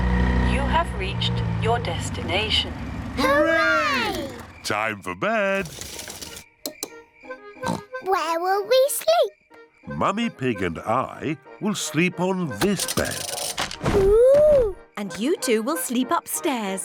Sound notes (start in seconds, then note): 7.6 oinks